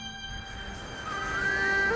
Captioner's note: chirping